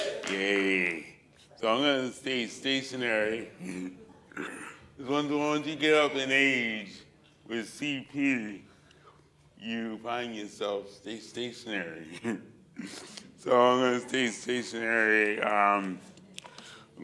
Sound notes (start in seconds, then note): 0.0 whoops, cheers; 3.6 chuckles; 12.0 chuckles